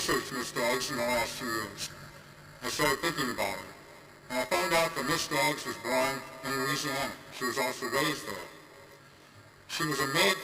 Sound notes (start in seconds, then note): none